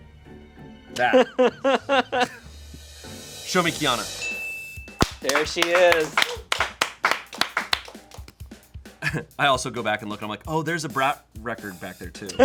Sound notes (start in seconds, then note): 1.0 laughing; 4.2 bell dings; 5.0 upbeat music; 5.0 crew clapping; 12.3 laughing